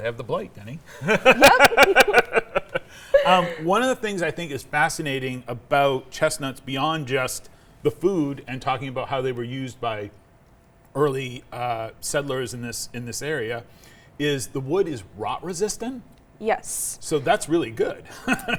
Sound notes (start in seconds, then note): 1.0 laughing; 1.0 laughs; 18.1 laughing